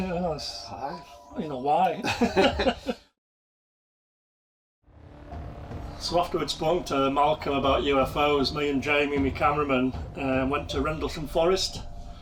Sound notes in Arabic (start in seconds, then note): 1.9 يضحكون; 4.6 الموسيقى الإلكترونية المشؤومة